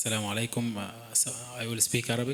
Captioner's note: speaking in foreign language